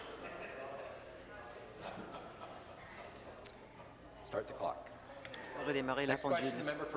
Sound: conversation din

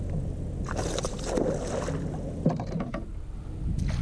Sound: splashing

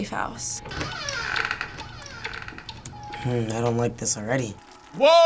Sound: door opening

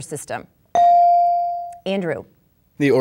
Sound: dinging

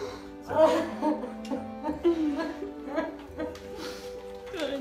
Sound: crying

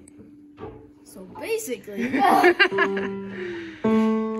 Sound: laughter

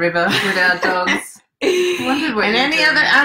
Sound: laughs

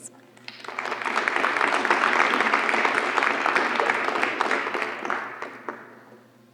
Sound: applause

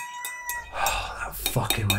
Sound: rooster crying; sighs

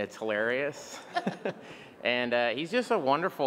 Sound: Bill and Interviewer laugh

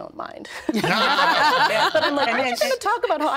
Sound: all laughing

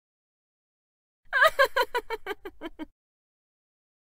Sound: sound of female laughter

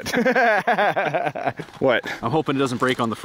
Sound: laughing

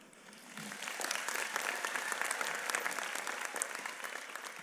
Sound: applause

